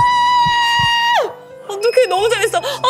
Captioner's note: heart racing 2